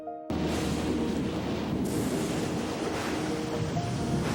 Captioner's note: thunder crashing